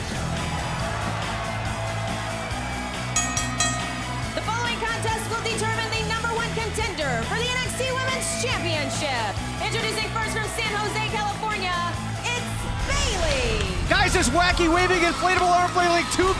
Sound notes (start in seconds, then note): 3.1 bell ringing